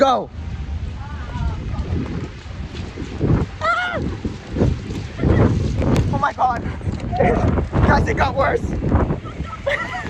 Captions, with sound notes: Go! -Ah! (screaming) oh my God... it, guys it got worse!